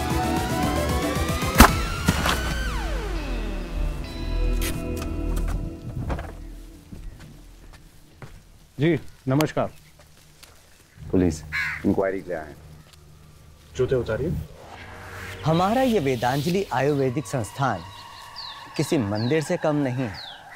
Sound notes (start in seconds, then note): 1.5 gunshot; 3.7 car halting; 5.2 car door closes; 5.2 car door opens